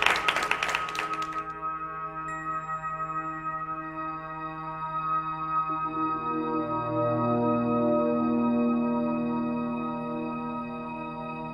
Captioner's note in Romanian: Aplauze